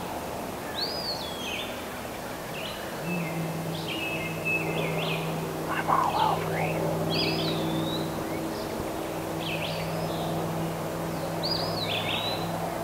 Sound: whispering

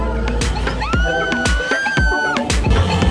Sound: screaming

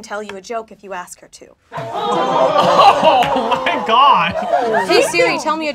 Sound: laughing

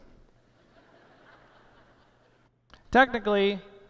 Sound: laughter

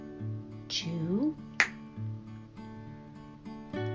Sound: click

